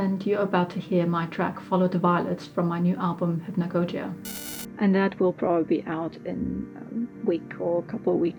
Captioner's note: glitch